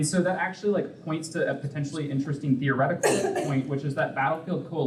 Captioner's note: coughing